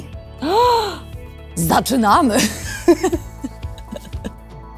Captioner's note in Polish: śmiech